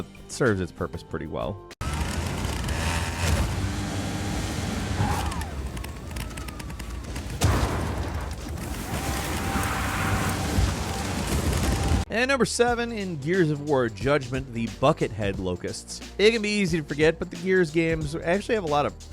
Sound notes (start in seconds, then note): 1.8 off-roader engine whirring; 7.5 off-roader thuds; 8.6 off-roader engine revving